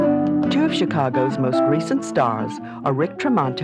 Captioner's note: voiceover